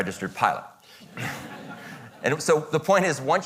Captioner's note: audience laughing